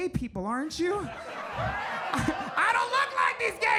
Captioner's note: audience laughs